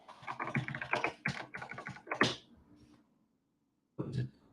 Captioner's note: keyboard clicks